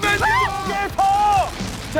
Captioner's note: shrieks